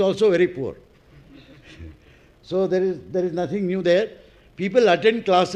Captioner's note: laugh